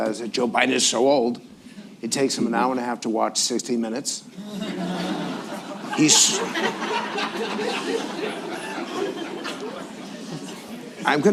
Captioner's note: laughter